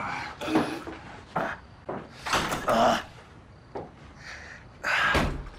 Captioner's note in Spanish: Quejidos